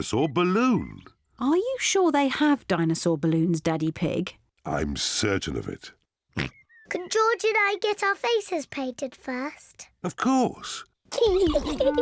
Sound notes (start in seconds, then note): 6.4 oinks; 11.2 both giggle